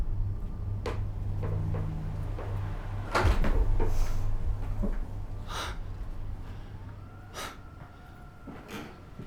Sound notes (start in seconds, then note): 3.2 blinds rattling; 3.2 wind howling